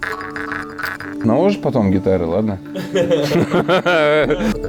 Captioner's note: sarcasm